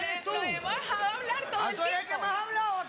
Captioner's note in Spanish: Risas